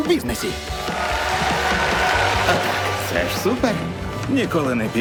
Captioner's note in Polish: okrzyki widzów